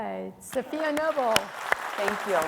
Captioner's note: audience clapping